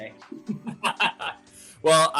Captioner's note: laughter